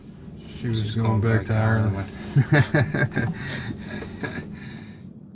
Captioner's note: laughs